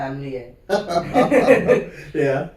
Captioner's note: laughs